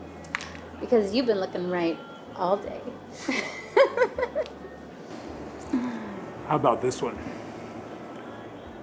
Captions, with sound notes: Because you've been looking right all day. [laughs] How about this one?